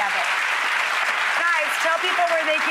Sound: audience applauds

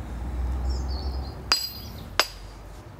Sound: chiseling

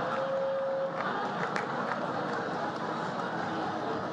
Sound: laughter

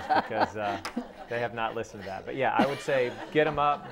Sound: laughing

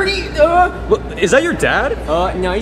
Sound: yells

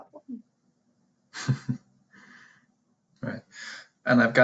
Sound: laughs

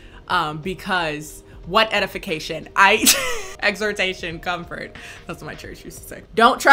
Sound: laughs

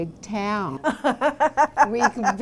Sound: laughter

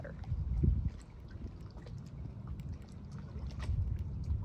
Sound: water splashing

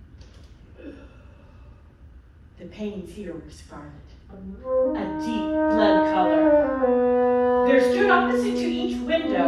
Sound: the sound of a gasp

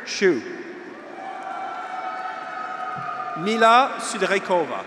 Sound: graduates cheer

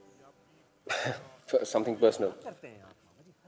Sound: chuckles

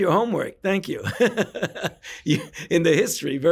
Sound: laughs

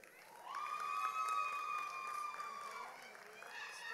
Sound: audience applauds

